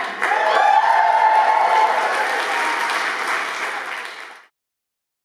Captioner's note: cheers and applause